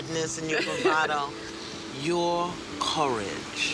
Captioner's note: laughs